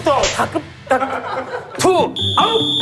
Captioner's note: slap